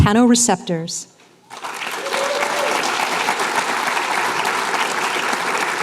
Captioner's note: applause